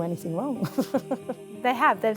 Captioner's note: chuckles